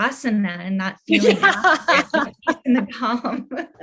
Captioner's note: laughs